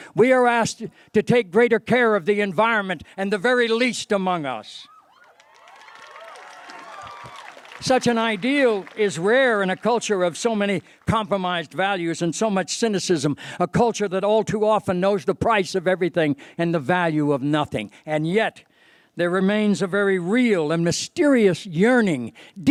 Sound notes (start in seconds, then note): 5.2 applause